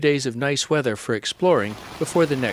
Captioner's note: rain pattering